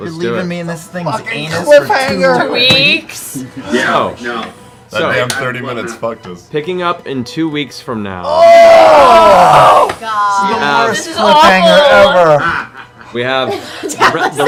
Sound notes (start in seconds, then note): 8.4 yelling